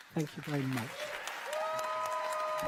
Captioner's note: applause